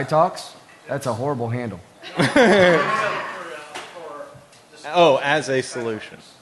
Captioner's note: laughter